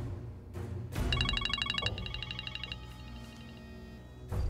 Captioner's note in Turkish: Telefon çalıyor